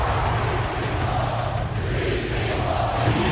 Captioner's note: crowd cheering